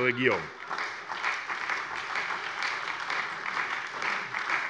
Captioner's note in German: Beifall bei der SPD